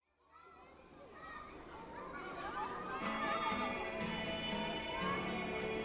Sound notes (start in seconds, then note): 0.4 children chattering; 3.6 upbeat music